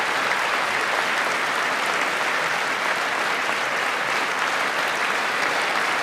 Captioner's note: applause